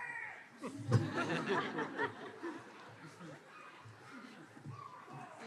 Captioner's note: laughter